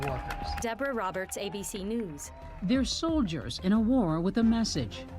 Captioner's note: \cheers and applause\